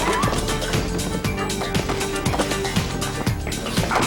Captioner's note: scuffling